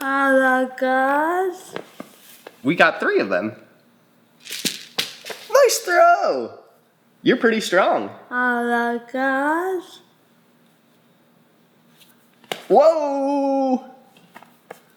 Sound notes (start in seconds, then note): 4.4 ball rattles